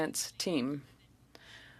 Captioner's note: speaking French